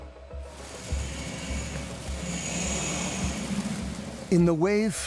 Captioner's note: water splashing